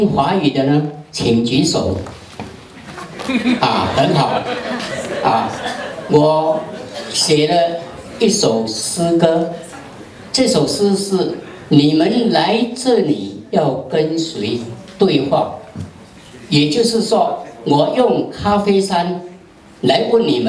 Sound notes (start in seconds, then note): 2.9 audience laughter